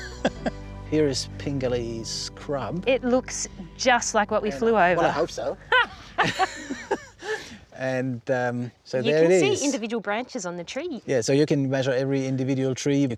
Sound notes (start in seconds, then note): 0.0 chuckles; 5.6 laughs